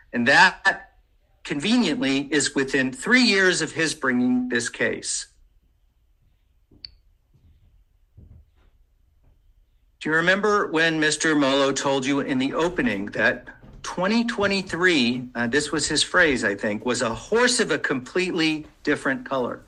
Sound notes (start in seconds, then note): 6.6 mouse clicking